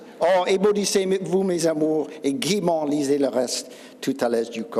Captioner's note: speaking Old French